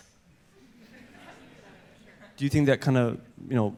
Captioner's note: audience laughter